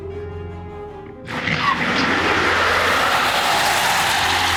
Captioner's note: car tires squealing